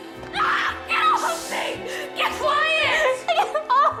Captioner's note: Giselles over Betty's screams; screams; Betty sobbing